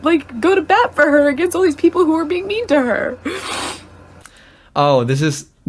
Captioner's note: sniffs